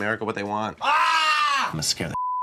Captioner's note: shout